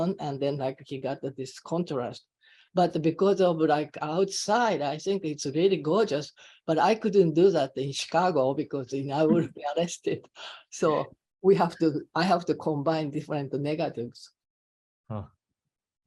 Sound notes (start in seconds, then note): 9.3 chuckling